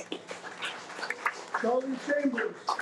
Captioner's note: audience applauding